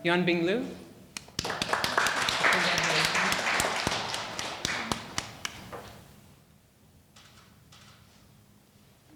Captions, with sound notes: Yuanbing Liu? (audience applauding) Congratulations.